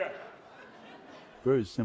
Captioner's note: laughter